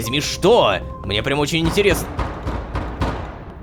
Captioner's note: knock at the door